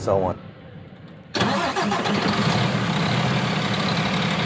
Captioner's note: engine revving